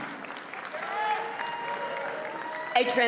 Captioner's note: audience cheers and applauds